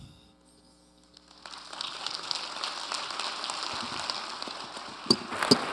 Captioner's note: audience applauding